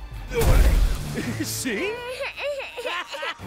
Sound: crying

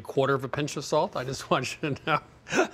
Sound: chuckles

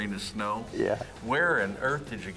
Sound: chuckling

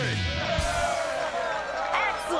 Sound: cheering

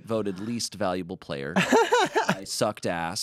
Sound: laughs

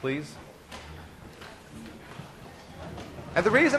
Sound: students shuffling

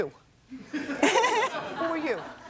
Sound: laughter

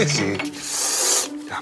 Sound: A sharp breath

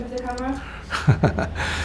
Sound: laughs

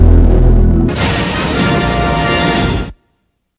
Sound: snippeted music playing; electricity zapping as rousing fanfare plays

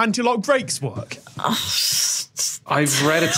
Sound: scoffs

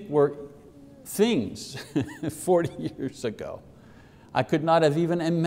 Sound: laughs

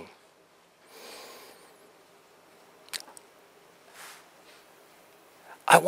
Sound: pause

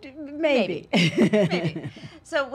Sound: LisaGay laughs

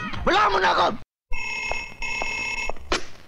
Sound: phone ringing

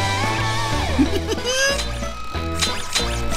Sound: giggling

